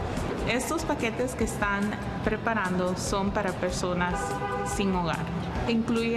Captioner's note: Spanish